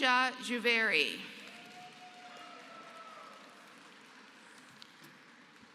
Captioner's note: applause